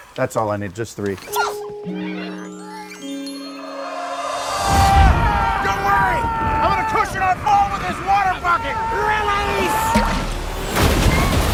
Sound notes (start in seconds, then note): 3.4 group yelling